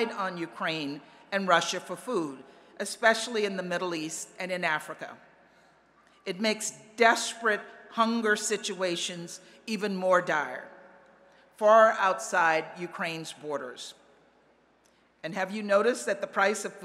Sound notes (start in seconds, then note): none